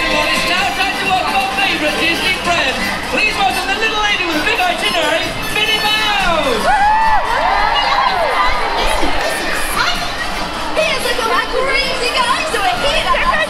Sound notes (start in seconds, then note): 0.2 music drowns out announcer; 6.8 crowd cheers